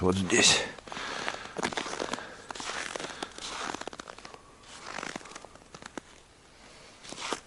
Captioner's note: steps